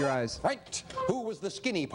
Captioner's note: beeping